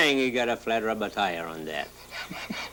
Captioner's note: laughs